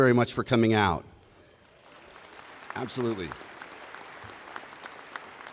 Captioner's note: applause